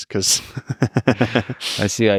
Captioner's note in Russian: смеётся